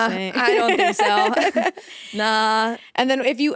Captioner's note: both laughing